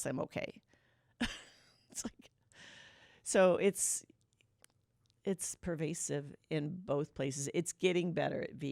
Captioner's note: laughter